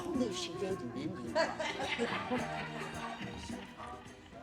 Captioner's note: laughter